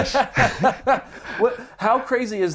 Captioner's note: laughing